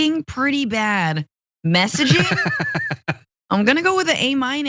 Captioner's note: laugh